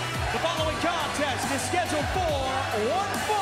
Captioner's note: bell ringing